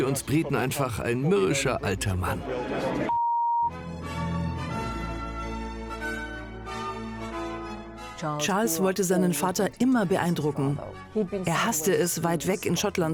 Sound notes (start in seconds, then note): 3.1 beep; 3.7 regal instrumental music